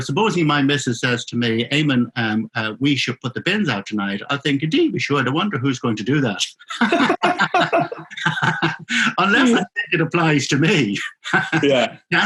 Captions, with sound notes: Supposing my misses says to me, "Eamonn, we should put the bins out tonight", I'm thinking, we should. I wonder who's going to do that. (both laughing) Unless I think it applies to me, (laughs)